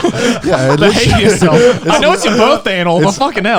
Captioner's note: laughing